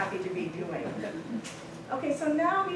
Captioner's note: laughter